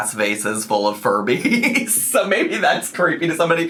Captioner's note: laughs